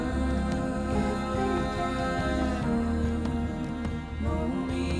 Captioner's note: echoes